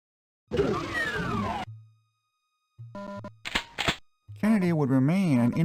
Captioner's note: Doom sound effects